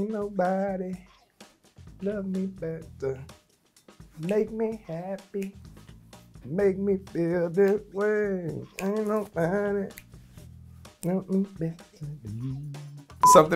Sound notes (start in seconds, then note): 5.3 Kendrick snapping